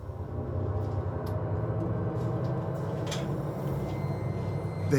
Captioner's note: mysterious sounds